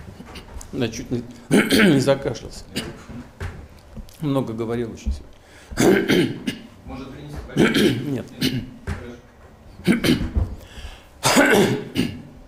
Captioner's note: wheezes